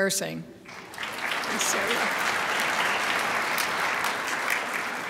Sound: crowd applauds

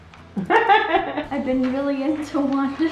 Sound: laughing

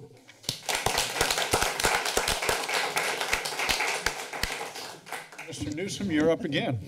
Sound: applause

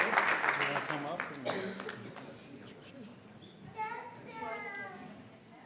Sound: people chattering

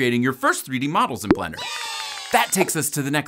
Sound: people cheering

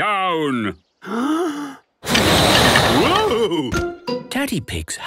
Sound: inhaling deeply; blowing

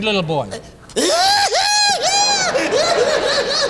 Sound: kisses; gigio laughing; audience laughing

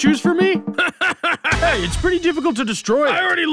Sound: laughs

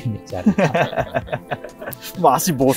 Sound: laughs

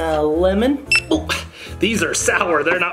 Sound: scanner beeps

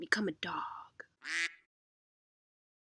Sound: quack

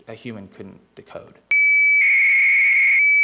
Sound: modem shrieking

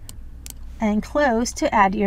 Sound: mouse clicks

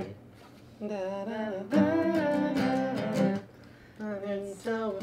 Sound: both humming

